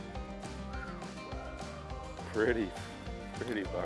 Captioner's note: whistles